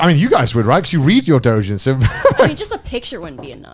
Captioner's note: laughs